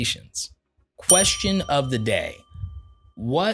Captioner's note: bell rings